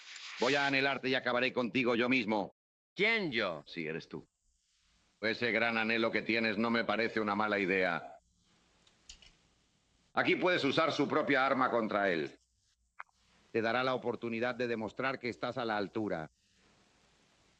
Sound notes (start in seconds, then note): none